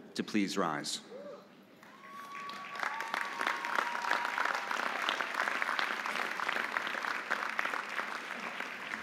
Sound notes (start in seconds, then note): 1.8 audience applauding; 1.8 audience cheering